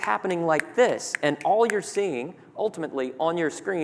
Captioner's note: snapping fingers